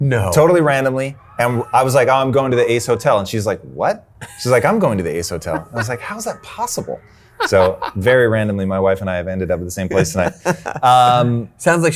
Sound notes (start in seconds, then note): 4.2 chuckles